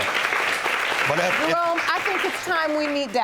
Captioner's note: audience applauding